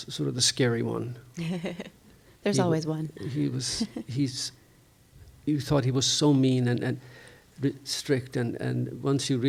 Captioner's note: chuckles